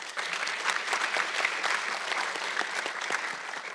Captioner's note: audience clapping